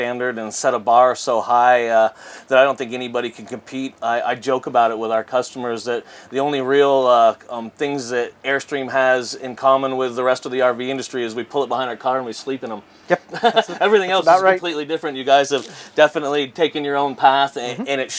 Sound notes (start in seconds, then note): 13.1 laughs